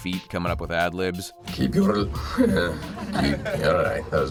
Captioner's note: people laugh; sighs